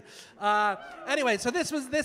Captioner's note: audience cheering